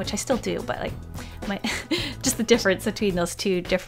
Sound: laughs

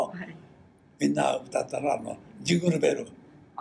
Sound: foreign language

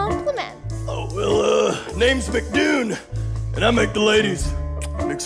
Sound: smooch

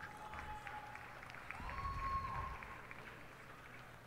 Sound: cheers and applause

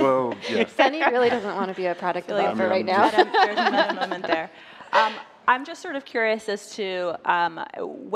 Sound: laughter

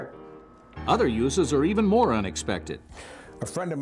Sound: voiceover

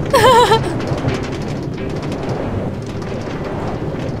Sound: chuckling

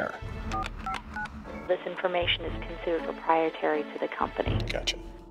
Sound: female on phone

